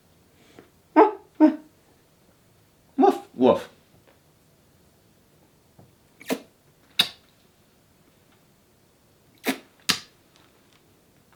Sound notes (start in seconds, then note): 0.6 imitating dog barking